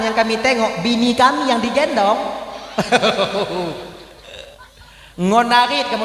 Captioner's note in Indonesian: tertawa